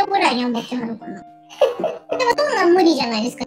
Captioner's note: laughs